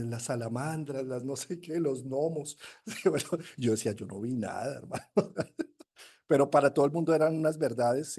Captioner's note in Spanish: risas; resoplido